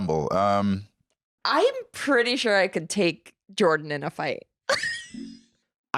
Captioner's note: laughs